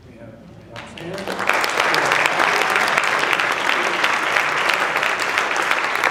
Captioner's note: applause